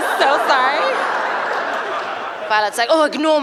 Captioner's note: laughter